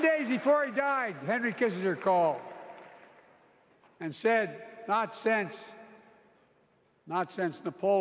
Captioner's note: applause